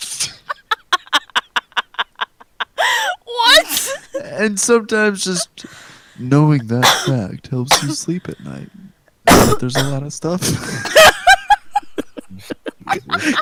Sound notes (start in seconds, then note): 2.8 gasp; 6.6 cough/dying; 10.4 cracks up